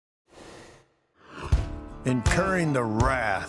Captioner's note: rushing sound plays